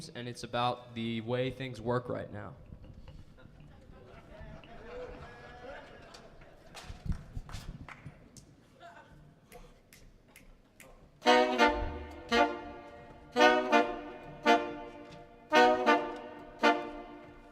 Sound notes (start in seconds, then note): 3.1 audience chuckling; 11.2 energetic jazz music